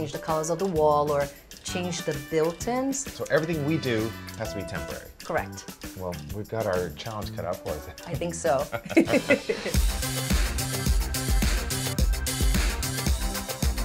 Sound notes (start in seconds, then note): 8.6 laughing; 9.9 exciting music